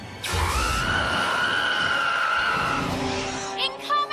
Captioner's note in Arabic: يصرخ